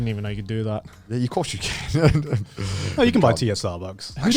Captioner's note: laughs